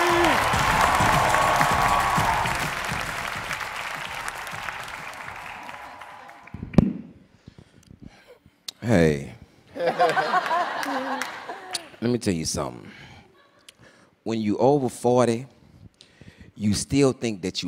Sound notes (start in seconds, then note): 0.0 cheers and applause; 9.7 laughter